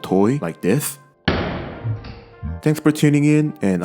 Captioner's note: exploding sound